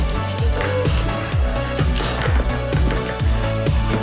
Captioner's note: Jack blabbering